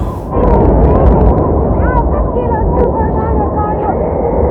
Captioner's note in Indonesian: Membenturkan